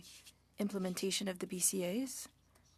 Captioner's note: speaking French